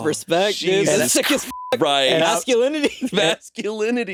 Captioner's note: beeping